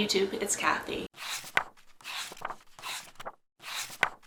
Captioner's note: pages turning